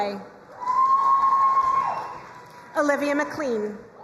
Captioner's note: crowd cheering and applauding